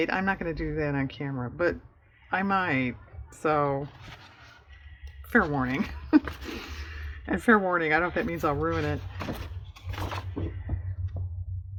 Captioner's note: laughs